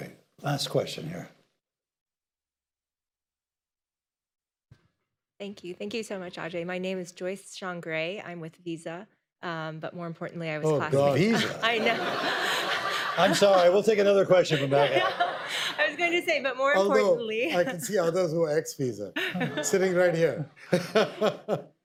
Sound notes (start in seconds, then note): 11.3 audience laughter